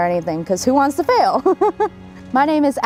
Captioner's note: laughter